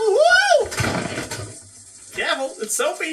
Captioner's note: thud